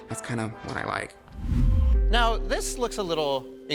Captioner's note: image whooshes